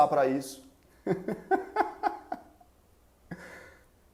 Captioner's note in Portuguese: risos